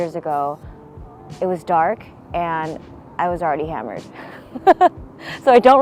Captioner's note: laughing gently